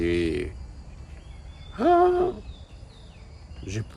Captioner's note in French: soupir exaspéré